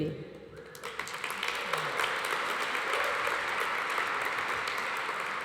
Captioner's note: audience applauds